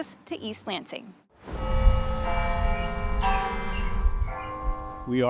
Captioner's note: bells ringing